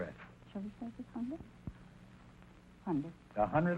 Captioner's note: whispering